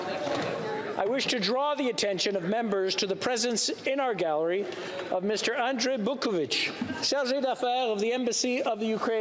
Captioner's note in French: voix de l'interprète